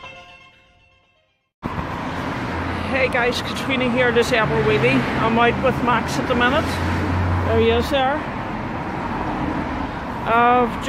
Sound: traffic in background

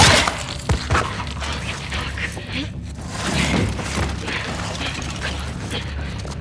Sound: gunshots; Ellie whispering; Dina whispering

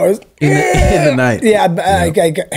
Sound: groans

